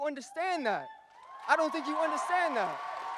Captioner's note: audience cheers and applauds